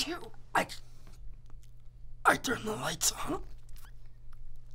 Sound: gasps

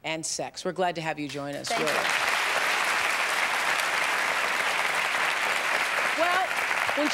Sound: applause

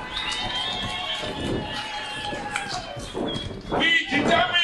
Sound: cheering

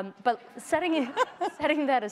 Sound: laughter

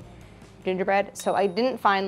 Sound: bell pings

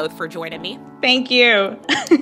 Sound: laughter

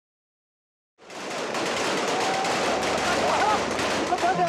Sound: guns firing

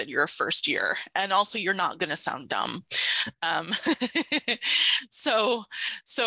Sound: laughs

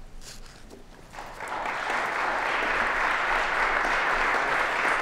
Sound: applause

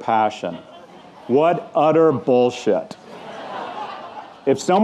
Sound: audience laughing

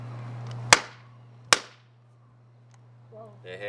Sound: hitting ball against the ground

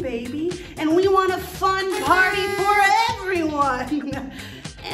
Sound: noisemaker sound effect

